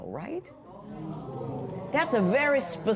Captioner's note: spectators murmur